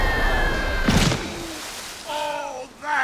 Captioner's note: splat